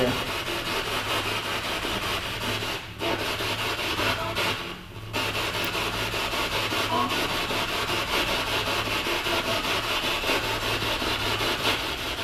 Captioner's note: radio noise from the spirit box